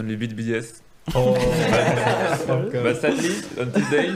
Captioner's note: all laughing